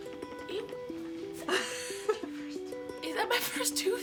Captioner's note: laughter